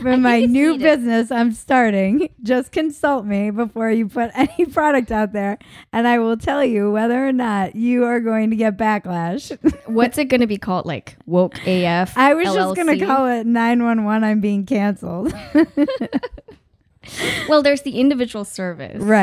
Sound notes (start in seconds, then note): 9.3 laughing; 15.2 laughing